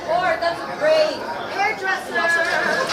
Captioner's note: all chattering